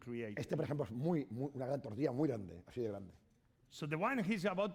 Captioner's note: speaking spanish